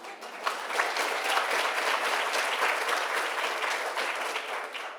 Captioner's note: attendees applauding